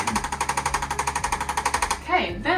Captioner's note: device clicking